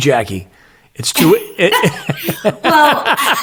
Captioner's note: both laughing